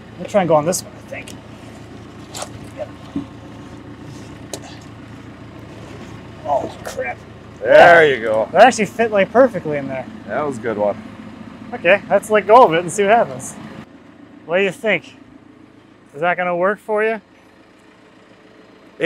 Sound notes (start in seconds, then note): 4.5 panting and grunting